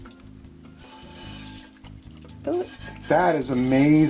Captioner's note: water drips off pan; tool scrapes pan